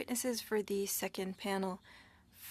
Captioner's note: speaking French